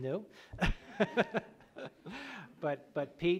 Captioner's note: laughs